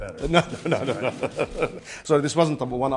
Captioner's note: laughter